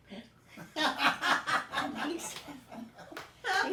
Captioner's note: group laughing